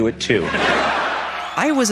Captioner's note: audience laughing